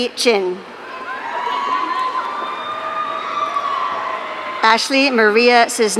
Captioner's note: audience cheering